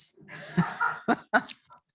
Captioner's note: laughter